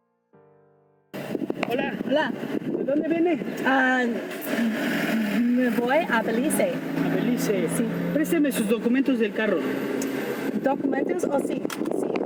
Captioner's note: spanish conversation at the Check Stop